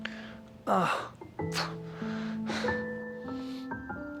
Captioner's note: Terry moaning